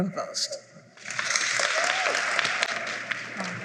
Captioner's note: applause